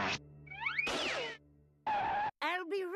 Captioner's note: screeching